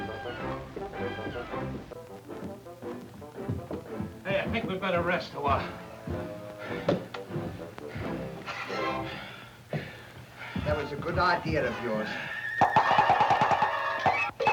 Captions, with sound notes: (gentle music continues) Hey, I think we'd better rest a while. (both panting) - That was a good idea of yours.